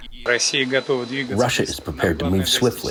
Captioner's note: through translator